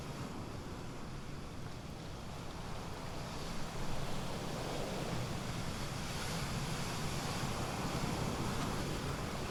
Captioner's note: waves crash amidst a deep wind